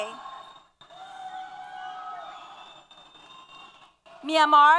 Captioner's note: applause & Cheers